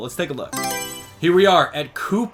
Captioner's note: Mario Selection Sound